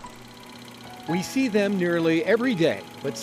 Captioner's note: graphics shuffling